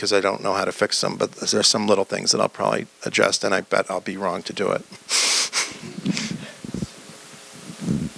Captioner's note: laughs